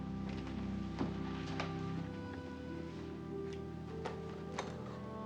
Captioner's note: none